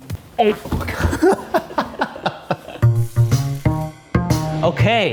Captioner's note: laughing; upbeat music